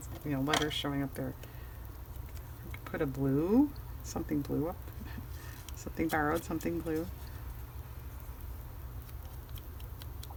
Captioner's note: laughs